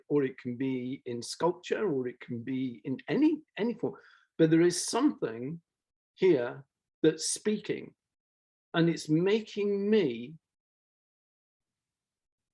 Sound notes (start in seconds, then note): none